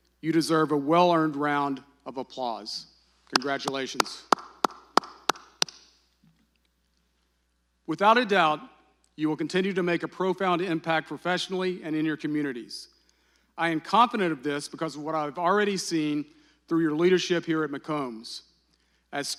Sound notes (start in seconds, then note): 3.3 claps